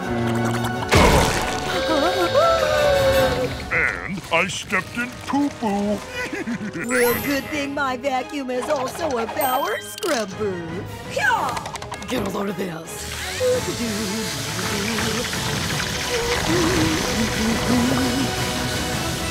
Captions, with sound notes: [gasping] And I stepped in poo poo. [laughing] Real good thing my vacuum is also a power scrubber. Hah! Get a load of this. [humming]